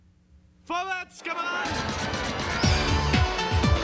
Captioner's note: speaking german